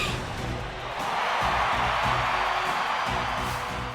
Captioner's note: crowd cheering